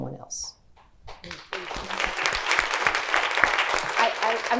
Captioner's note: clapping